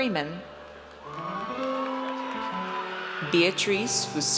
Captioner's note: audience cheers